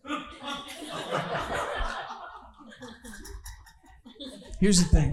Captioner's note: audience laughing